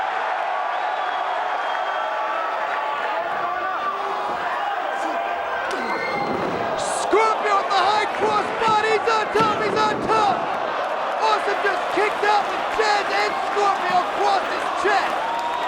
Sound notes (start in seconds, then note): 0.7 crowd cheering